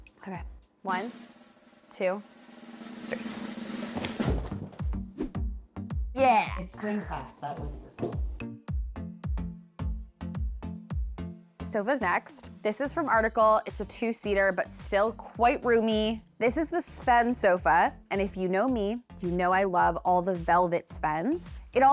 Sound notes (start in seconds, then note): 4.0 carpet rolling; 5.2 upbeat music; 8.8 upbeat music